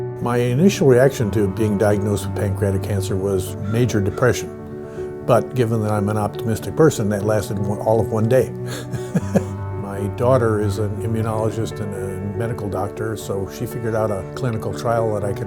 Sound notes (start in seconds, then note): 8.6 laughter